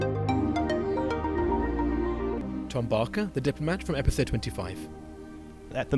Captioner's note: voiceover